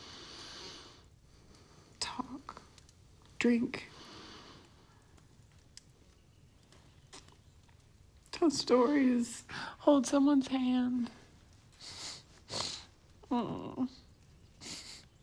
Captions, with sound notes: Talk, drink. Tell stories, hold someone's hand. [sniffing]